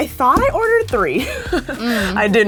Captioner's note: laughing